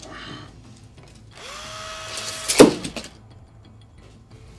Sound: drill noise

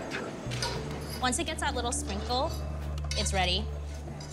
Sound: hands shuffling

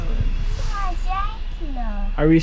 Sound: chatters

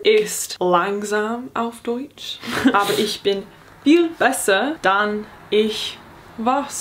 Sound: speaking in foreign language

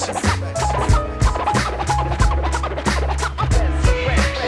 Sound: record scratching

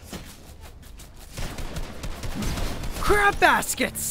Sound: guns firing

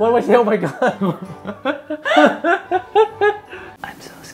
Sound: laughing

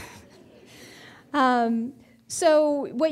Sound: audience laughing

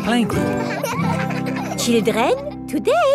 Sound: children laughing

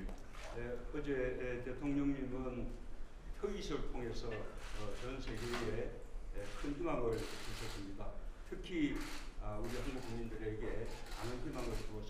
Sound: speaking Korean

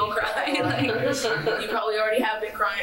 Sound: laughs through pain

